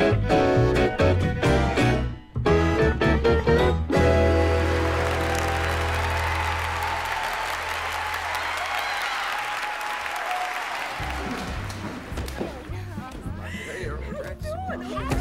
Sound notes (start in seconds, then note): 4.2 audience applauding